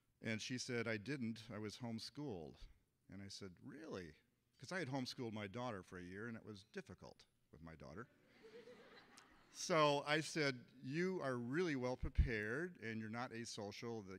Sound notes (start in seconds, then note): 8.2 audience laughing